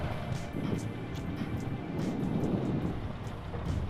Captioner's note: wind